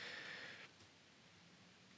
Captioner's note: none